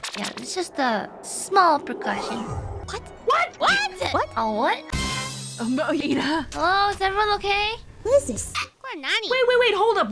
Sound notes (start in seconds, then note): 8.5 Hic